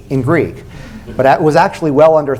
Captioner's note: laughter